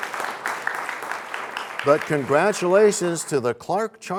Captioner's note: applause